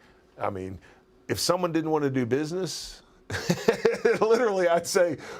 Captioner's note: laugh